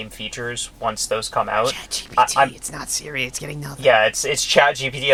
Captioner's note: whispers